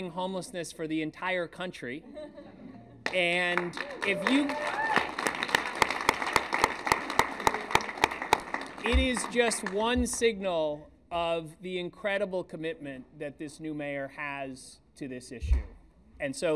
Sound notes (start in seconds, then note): 2.6 applause